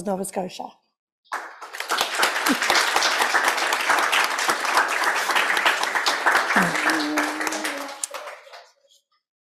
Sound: applause

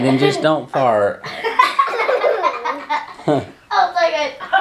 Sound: laughs

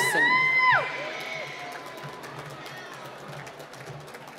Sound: cheering and applause

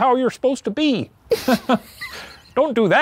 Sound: both laughs

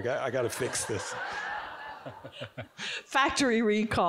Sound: audience giggling

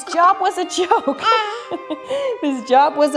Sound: giggles

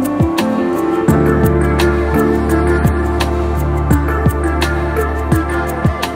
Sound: humming

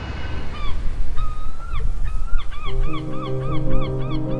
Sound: seagull squawking

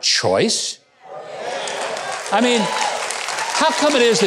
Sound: audience cheering

